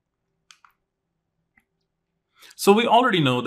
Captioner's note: remote clicking